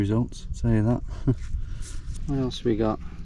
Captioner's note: chuckles